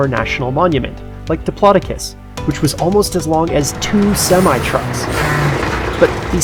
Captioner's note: trucks breaking